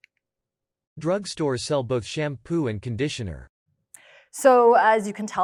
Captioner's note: adult male voice